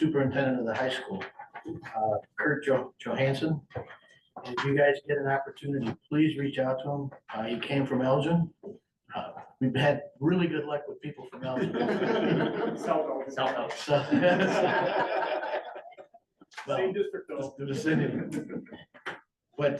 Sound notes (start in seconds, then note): 11.3 laughter